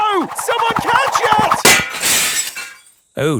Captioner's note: shatters